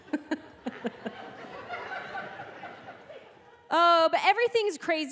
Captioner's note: laughing